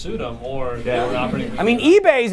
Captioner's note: laughter